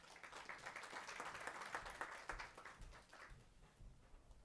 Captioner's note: applause